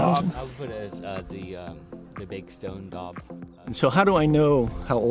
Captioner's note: group chats